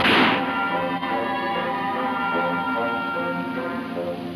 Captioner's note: gunshot banging